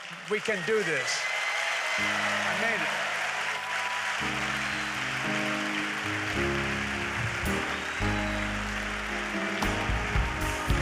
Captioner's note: applause